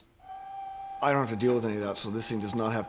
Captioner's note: machine buzzing